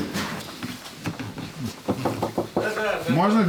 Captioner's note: sound of steps; knocking on door